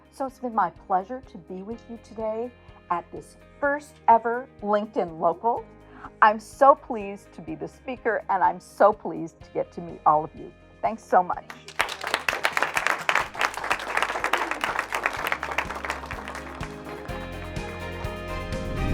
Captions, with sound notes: So it's been my pleasure to be with you today at this first-ever LinkedIn Local. I'm so pleased to be the speaker, and I'm so pleased to get to meet all of you. Thanks so much. (audience applauding) (gentle upbeat music)